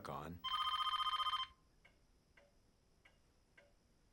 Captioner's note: phone ringing